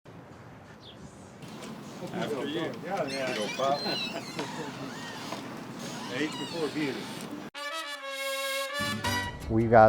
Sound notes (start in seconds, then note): 4.1 laughter